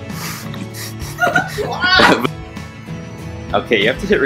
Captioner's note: laughing